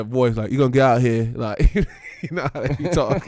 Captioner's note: laughing